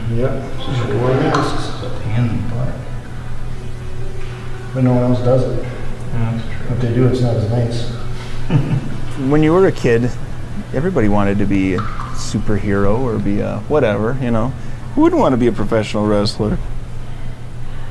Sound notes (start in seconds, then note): 8.5 laughing